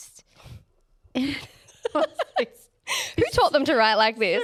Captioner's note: both laughing